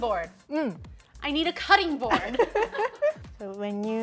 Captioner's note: laughter